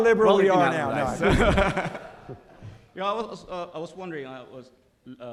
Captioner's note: laughs